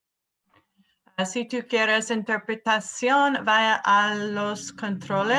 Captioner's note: speaks in Spanish